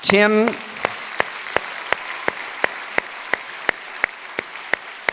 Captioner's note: applause